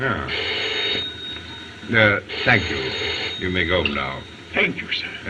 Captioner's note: phone Ringing